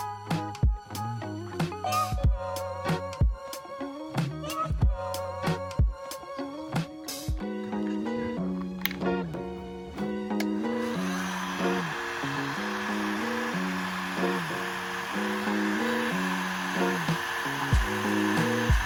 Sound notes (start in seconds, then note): 10.0 upbeat music; 10.7 heat shrink gun whirring